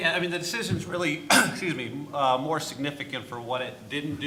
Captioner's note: clears throat